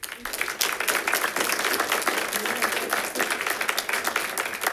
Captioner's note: audience clapping